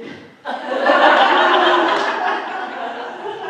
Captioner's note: laughter